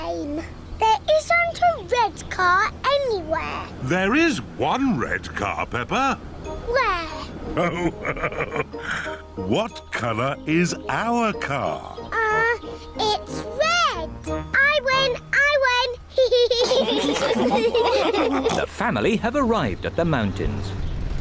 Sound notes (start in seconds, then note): 7.5 laughs; 16.2 all laugh